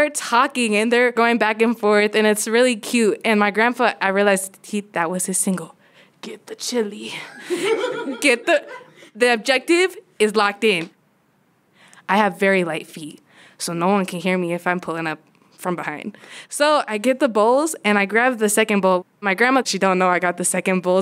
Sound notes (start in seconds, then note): 7.2 laughter